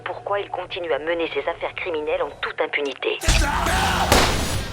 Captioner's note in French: radio; radio